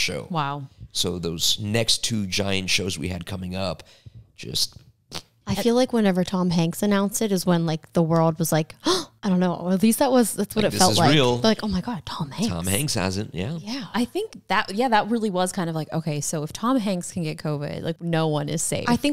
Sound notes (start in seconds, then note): 4.4 blows raspberry; 8.9 gasps